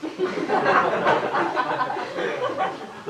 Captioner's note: laughter